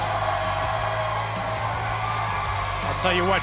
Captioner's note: cheers & applause